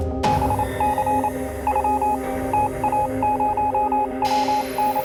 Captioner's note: electronic beeping